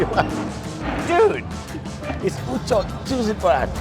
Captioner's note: laughing